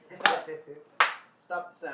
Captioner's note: clapping